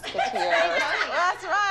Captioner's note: laughter